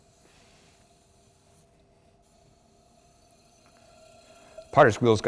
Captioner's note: whirring